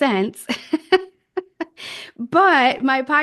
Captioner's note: laughs